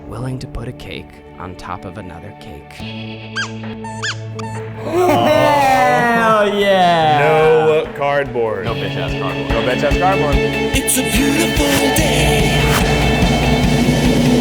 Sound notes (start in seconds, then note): 3.8 squeaking; 4.8 cheering